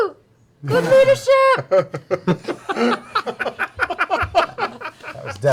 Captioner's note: laughter